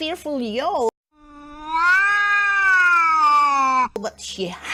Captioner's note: cat yowls